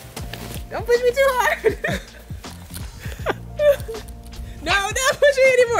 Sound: laughs

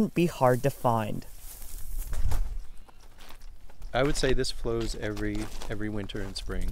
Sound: noise of walking

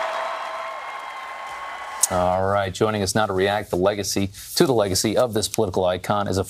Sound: cheers and applause

